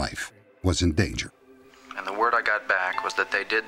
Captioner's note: on phone